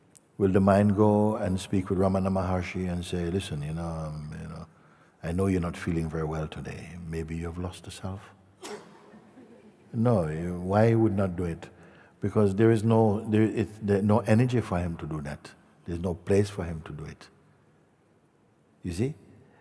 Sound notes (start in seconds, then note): 9.0 Lachen